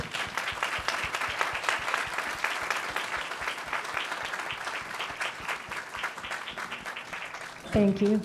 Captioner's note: applause